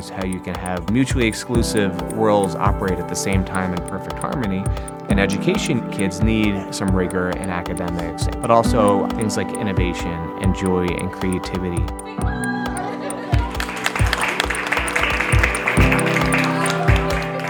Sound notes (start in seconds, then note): 12.6 students clapping